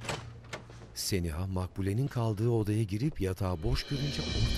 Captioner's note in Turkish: Kapı açılma sesi; Ayak sesi; Müzik - Gerilim